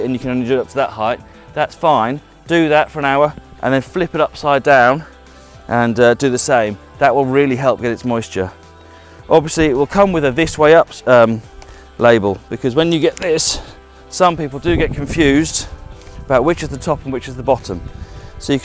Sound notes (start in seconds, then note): 14.5 wind whishing